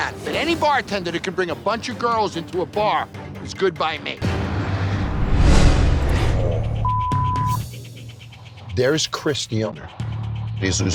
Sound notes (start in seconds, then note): 4.3 dramatic music; 4.7 air whooshing; 6.8 beep